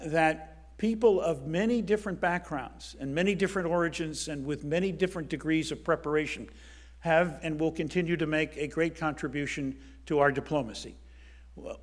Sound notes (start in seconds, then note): none